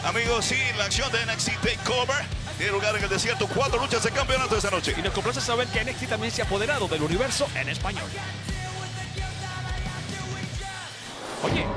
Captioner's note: speaking spanish